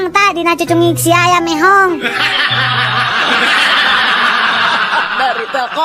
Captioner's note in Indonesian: tertawa